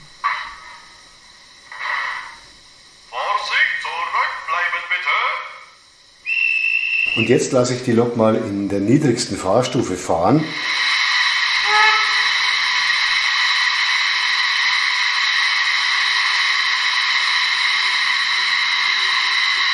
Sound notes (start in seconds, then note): 2.9 then conductor whistle